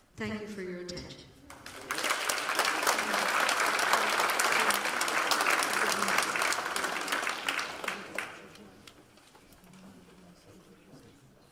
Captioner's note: applause